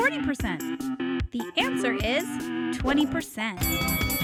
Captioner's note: bell ringing